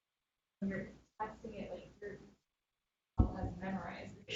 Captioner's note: faintly speaking